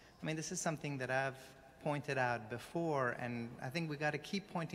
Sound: none

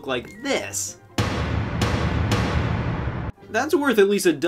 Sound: banging sounds

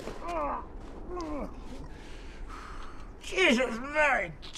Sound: Santa groaning

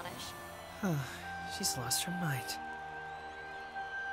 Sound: sighs; whispering

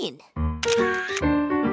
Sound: clicking

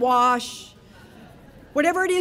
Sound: audience laughing

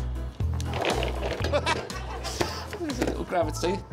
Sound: upbeat music; balls rattling; tape unwrapping; audience chuckling

